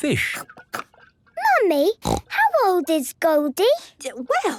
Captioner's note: snorting